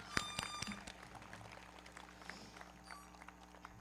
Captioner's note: audience cheering; everybody clapping; foghorn blowing